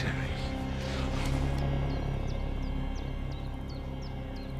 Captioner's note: birds chirping